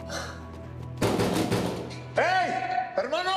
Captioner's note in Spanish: Golpes en la puerta